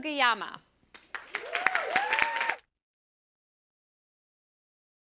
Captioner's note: applause